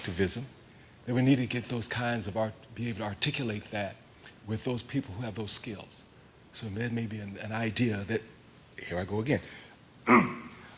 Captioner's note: cough